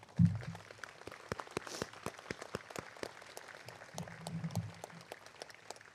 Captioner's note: applause